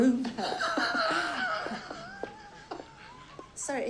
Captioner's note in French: des rires